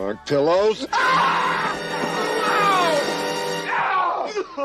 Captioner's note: dramatic music; screams